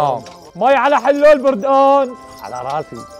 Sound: shouting popular Syrian selling words

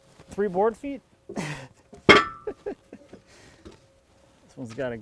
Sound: laughs

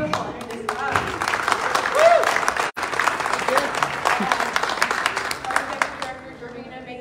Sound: clapping

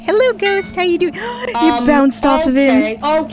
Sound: gasp

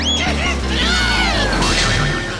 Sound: squealing

